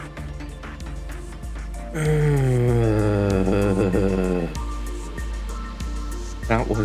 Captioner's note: sigh